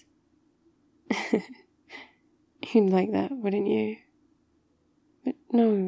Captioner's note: laughs